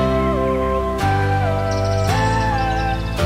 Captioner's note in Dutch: vogel gefluit